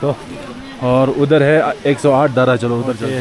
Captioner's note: water spouts